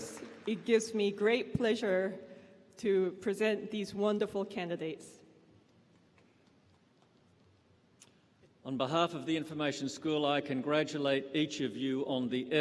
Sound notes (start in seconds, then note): 0.0 applause